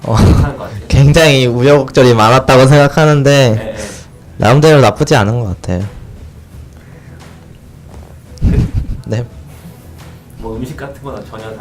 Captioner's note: laughs